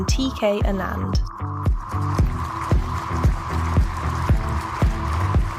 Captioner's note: applause